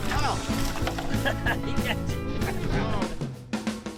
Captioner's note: laughs; upbeat music